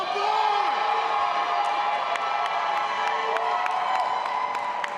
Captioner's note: audience applauding and cheering